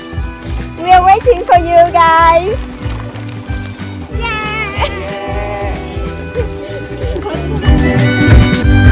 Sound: cheers

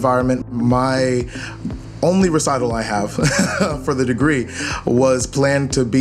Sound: laughs

